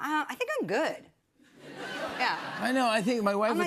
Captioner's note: laughter